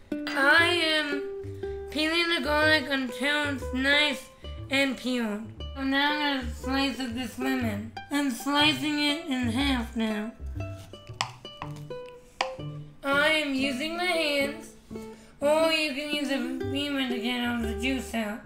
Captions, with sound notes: I am peeling the garlic until it's nice and peeled. And now I'm going to slice up this lemon. I'm slicing it in half now. [SLICING] I am using my hands or you can use a reamer to get all the juice out.